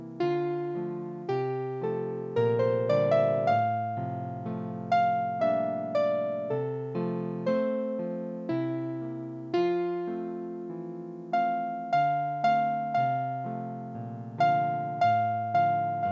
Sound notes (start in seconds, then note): none